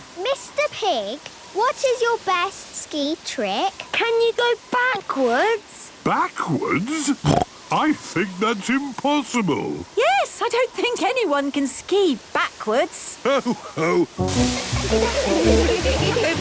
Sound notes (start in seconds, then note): 7.2 snorting; 14.4 laughter